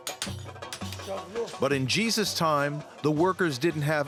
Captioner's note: indistinct chatter